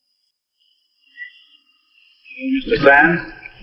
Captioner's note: light chatter in saloon